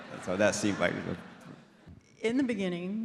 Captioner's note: audience laughs